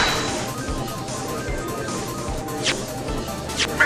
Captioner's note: gallery chattering